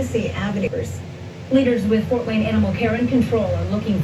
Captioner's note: on TV